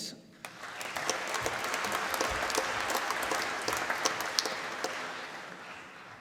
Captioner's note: applause